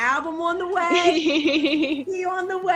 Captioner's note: laughing